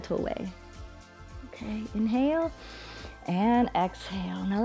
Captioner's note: inhales